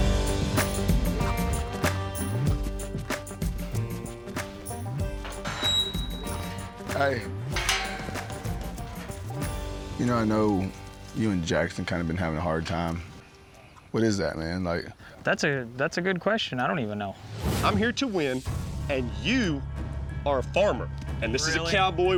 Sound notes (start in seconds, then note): 7.4 gate clanks shut